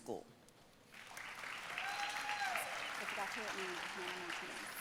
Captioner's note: audience cheering and applauding